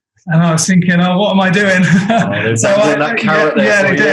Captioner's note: laughs